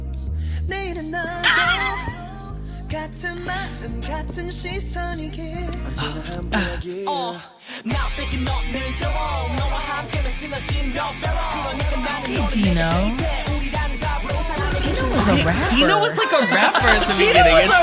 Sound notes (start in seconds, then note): 1.4 laughs; 6.0 sigh